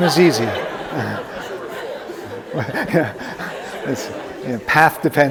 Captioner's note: audience laughing